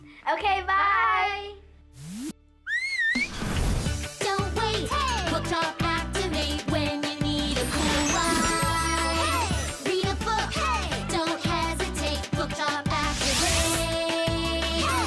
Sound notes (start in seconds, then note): 2.6 Kitty whistles